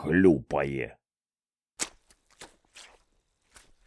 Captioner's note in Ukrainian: чвак-чвак